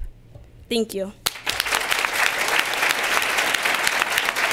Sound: applause

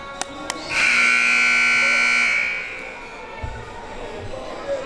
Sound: siren buzzing

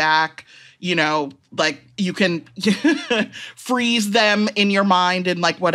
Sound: chuckles

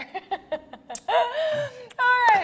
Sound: laughs

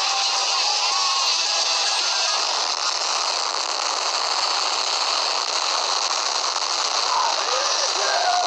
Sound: Explosions coming from the God Slayer

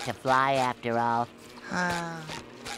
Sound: sighing; squeaking

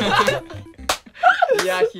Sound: clap clap

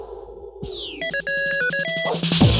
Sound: beeping; theme music

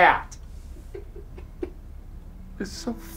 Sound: chuckling

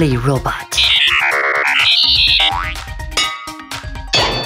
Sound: robot beeps

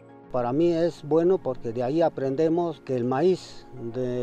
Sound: speaks in Spanish

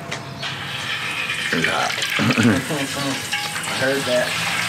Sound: oil sizzling; chuckles

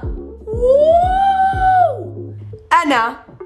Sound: shouts

